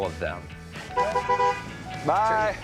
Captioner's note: honking